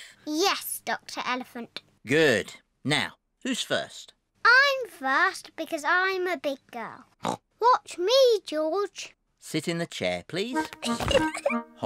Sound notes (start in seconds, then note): 7.0 snorts; 10.6 giggles